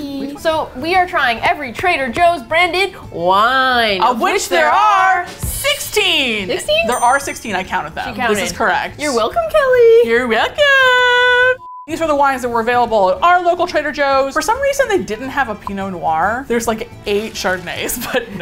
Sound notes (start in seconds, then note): 8.8 high-pitched voice